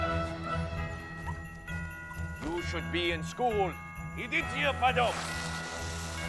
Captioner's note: speaking russian